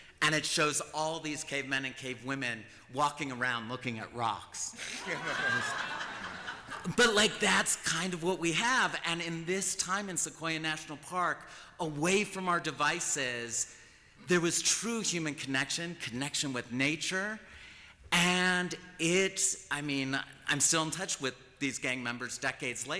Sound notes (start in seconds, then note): 4.8 laughter